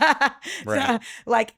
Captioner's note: laughs